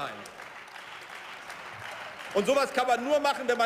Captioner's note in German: Beifall